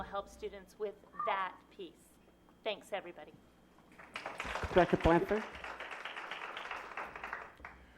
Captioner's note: applause